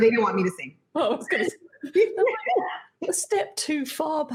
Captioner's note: giggles